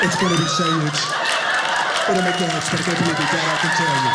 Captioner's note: audience laughter